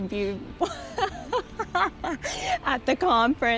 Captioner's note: laughs